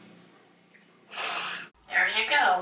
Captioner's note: blows her nose